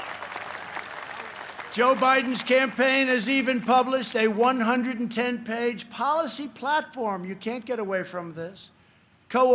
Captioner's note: applause